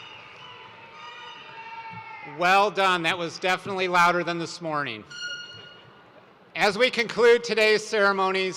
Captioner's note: cheers and applause